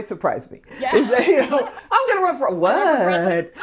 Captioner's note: laughing